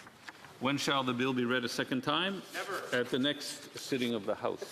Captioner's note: speaking French